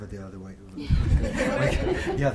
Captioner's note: group laughing